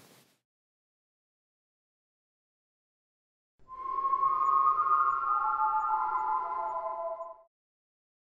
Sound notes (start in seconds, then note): 3.6 whistle